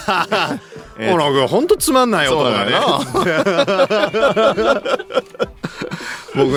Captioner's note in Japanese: 笑い